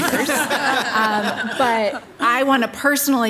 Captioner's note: participants laughing